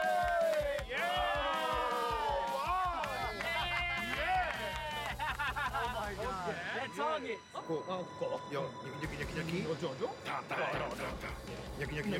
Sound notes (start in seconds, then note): 0.0 all exclaiming; 7.4 speaking Japanese